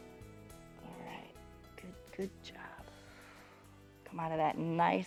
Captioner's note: exhales